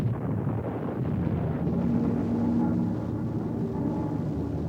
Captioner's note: planes buzz